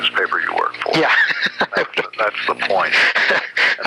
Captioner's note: laughs